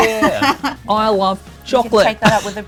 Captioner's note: laughs